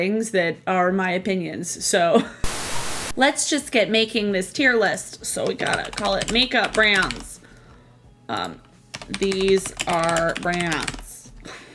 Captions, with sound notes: that are my opinions, so. (static crackling) Let's just get making this tier list. So we gotta call it "Makeup Brands". "These are brands".